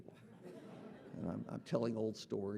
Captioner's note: audience laughing